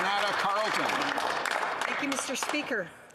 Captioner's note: applause